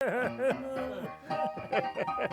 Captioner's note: men laughing; upbeat piano music